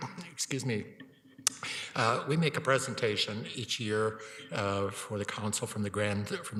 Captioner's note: coughs